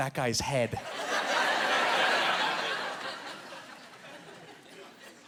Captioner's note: laughing